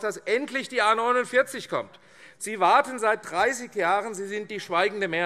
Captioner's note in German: none